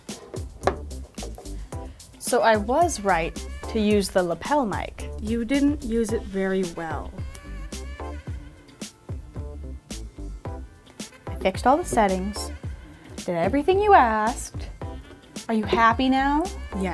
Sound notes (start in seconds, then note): 7.3 fingers clicking; 9.6 groovy music